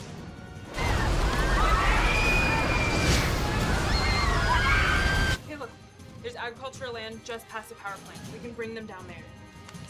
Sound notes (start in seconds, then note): 0.7 screaming